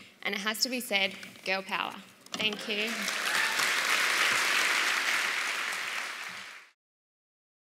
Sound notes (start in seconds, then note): 2.6 applause